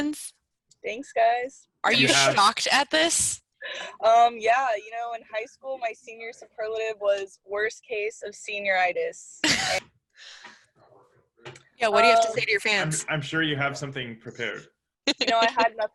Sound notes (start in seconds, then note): 9.1 laughs; 15.0 laughs